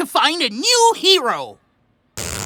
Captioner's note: sound of a zipper zipping